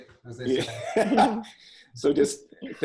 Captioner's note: laughs